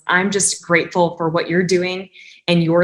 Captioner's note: none